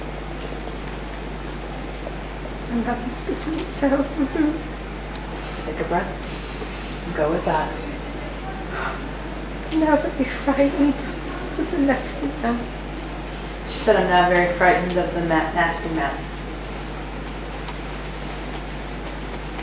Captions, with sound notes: - And I just want to help you through. - Take a breath. (deeply inhales) (exhales) - And I'm a bit frightened. Of the nasty man. - She said, "I'm now very frightened of the nasty man". (fingers tapping)